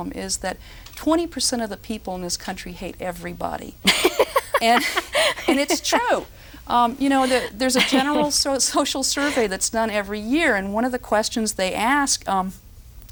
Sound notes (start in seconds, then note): 3.9 roaring laughter